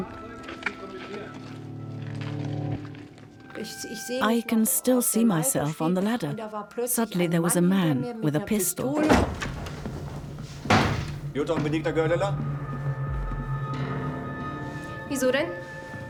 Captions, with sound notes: (speaks in foreign language) I can still see myself on the ladder, suddenly there was a man with a pistol. - Jutta and Benigna Goerdeler?